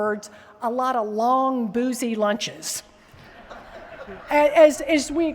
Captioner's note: laughter